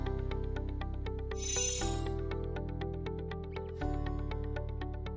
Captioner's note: chimes tinkling